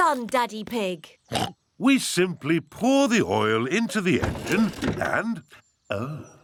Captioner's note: oinks